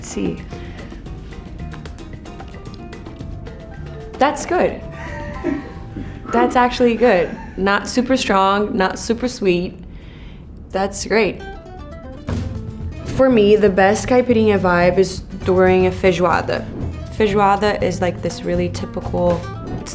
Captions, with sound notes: Let's see. [bright music] That's good. [crew laughs] That's actually good, not super strong, not super sweet. That's great. [bright music] For me, the best caipirinha vibe is during a feijoada. Feijoada is like this really typical,